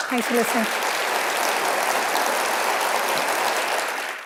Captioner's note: audience applauding